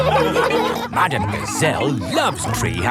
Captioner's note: laughing